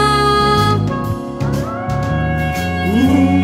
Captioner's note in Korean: 무서운 짐승 소리